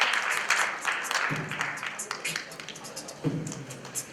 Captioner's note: beatboxing